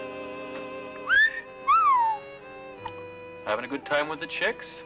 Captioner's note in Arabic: صفير